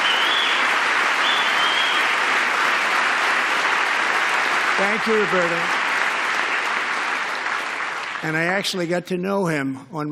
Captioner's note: applause